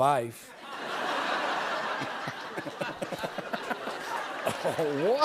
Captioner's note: laughter